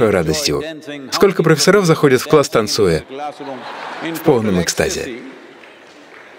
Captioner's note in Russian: смех